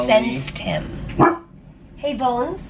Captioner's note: Ollie barking